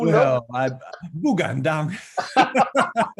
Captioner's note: speaks Mandarin